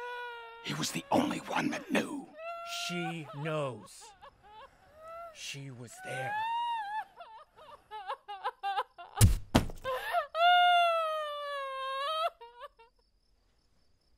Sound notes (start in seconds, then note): 5.9 Mabel sobs; 9.8 Mabel sobs; 10.0 rifle thudding